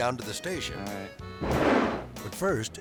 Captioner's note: air swoosh